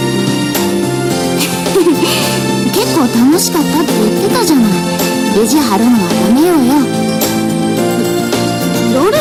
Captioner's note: laughs